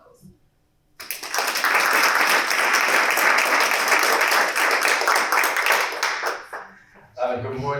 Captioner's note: applause